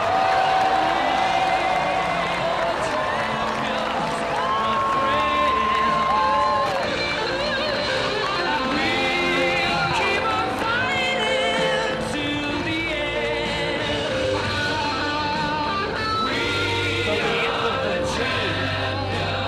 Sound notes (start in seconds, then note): 5.4 applause